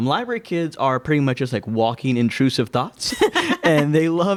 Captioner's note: laughing